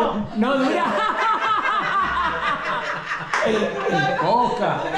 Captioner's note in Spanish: Carcajadas